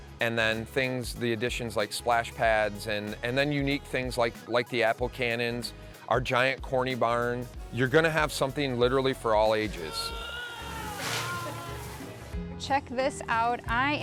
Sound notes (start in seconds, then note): 9.8 visitor groaning